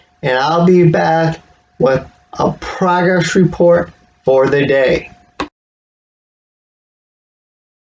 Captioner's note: click